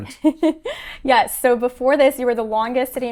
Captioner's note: chuckles